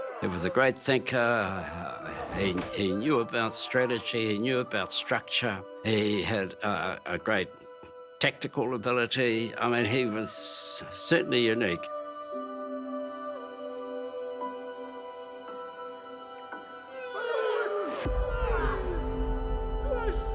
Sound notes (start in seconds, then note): 12.4 poignant music; 17.1 all yell